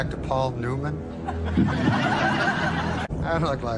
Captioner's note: laughter